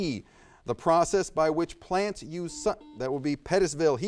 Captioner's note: buzzer buzzes